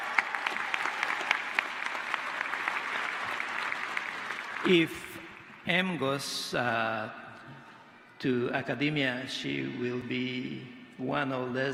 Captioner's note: applause